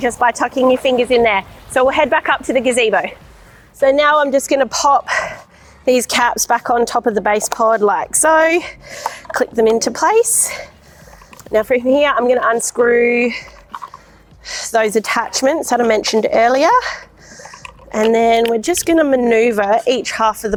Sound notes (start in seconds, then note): 11.2 cap pops; 13.4 screw unscrews; 17.3 screw unscrews